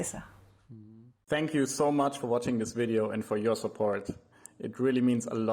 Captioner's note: voice-over